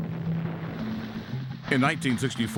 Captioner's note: explosion booms